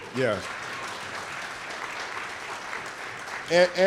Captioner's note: audience clapping